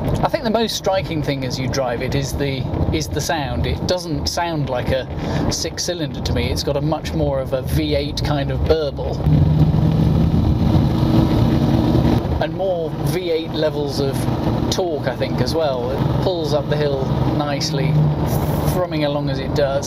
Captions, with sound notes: I think the most striking thing as you drive it is the sound. It doesn’t sound like a 6 cylinder to me it’s got much more of a V8 kind of burble [engine noise] and more V8 levels of torque I think as well. It pulls up the hill nicely thrumming along as it does.